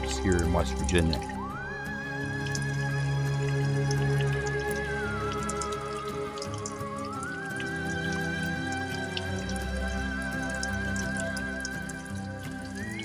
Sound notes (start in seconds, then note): 4.5 water dripping; 12.0 eerie music